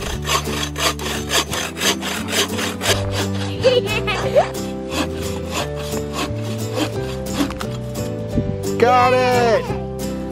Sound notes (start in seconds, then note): 0.2 scraping; 3.4 giggling; 5.5 scraping